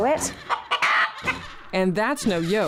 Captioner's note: chicken clucking